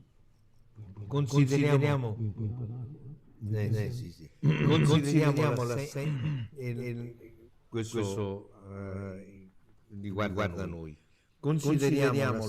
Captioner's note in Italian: schiarire la voce